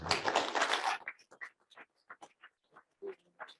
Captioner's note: all applaud